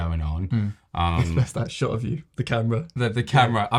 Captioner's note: laughs